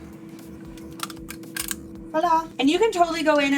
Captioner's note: metal clicking